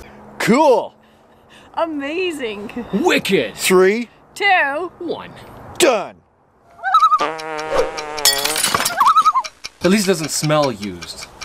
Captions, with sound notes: -Cool! -Amazing! -Wicked! -Three. -Two. -One. -Done. [loon call] [farts] [loon call] -At least doesn't smell used.